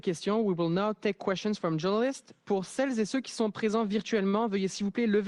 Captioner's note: speaks French